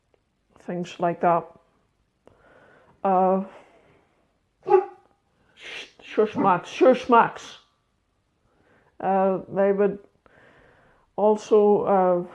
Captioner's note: dog barks